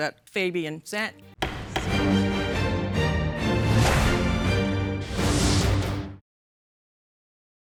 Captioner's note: dramatic music; gavel banging